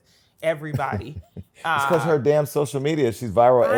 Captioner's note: laughs